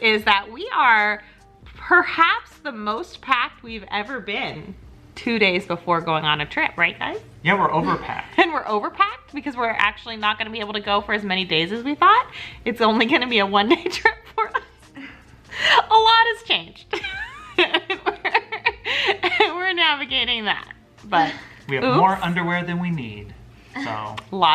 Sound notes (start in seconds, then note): 15.4 laughs; 16.8 laughing